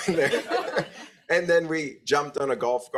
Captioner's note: group laughs